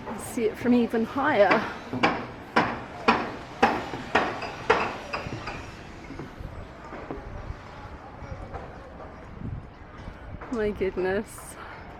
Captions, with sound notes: See it from even higher. [loud hammering] Oh, my goodness.